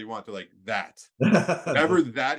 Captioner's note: laughing